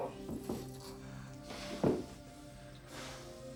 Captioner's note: Sandy grunts